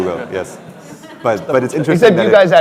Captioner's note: laughter